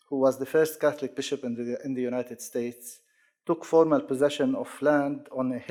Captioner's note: none